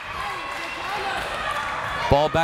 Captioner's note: crowd members shouting